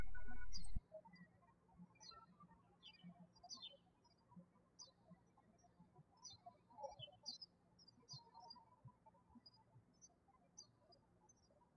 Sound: birds chirping

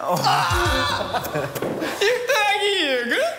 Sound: real Laugh

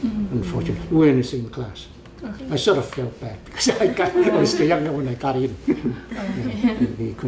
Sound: laughs

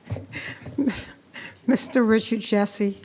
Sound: chuckling

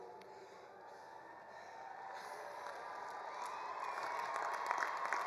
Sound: attendees cheering

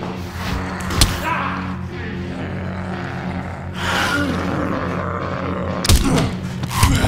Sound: zombie growls; Ed yells; blow thuds; blows thudding

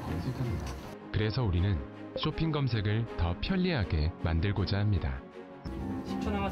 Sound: radio commercials being played

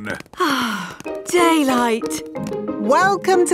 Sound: sighs

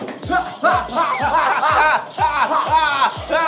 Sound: bang bang; sound effect created by themselves; making shooting sounds

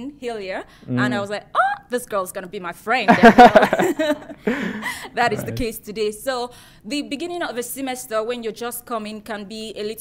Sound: laughter

